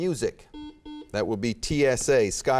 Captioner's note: beeping